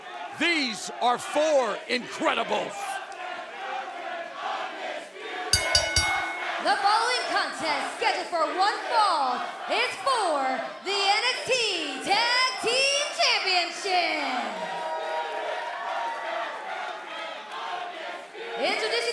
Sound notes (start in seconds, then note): 5.5 bell ringing; 15.2 fans chanting